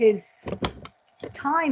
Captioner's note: object thudding